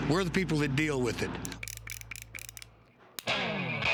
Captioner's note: cylinder clicking